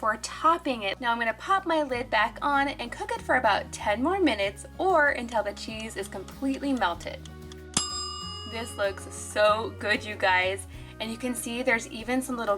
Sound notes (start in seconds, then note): 7.3 timer ticking; 7.7 timer dings